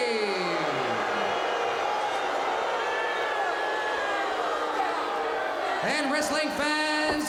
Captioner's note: crowd cheering